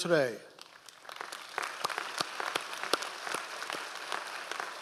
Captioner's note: audience applause